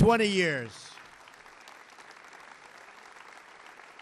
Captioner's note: applause